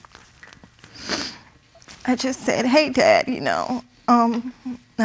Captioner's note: sniffles